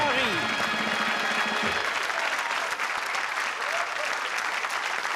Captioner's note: applause